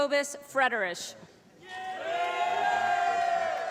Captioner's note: applause